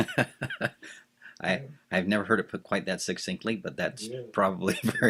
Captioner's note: laughs